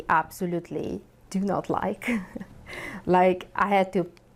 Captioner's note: chuckles